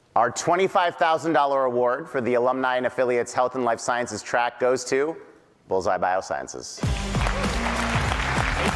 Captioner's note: applause